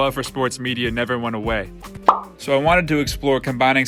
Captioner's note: soft pop sound